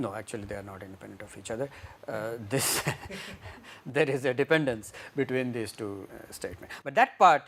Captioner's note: laughter